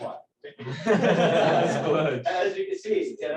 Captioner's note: laughter